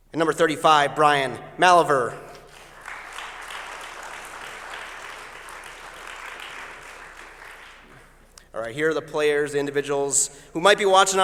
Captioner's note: applause